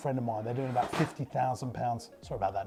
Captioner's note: crash